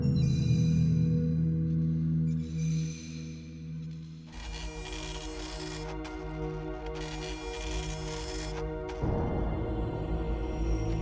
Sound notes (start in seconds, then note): 0.2 soft haunting music; 0.2 swing creaking; 4.4 printer whirring; 5.7 haunting orchestral music